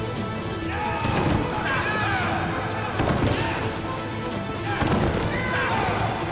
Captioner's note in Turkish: Hep bir ağızdan